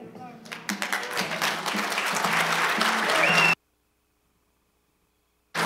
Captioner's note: cheers, applause